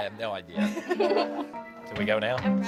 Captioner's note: giggling